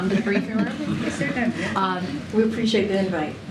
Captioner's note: laughter